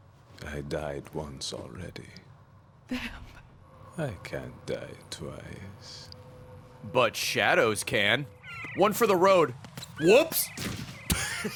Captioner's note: laughs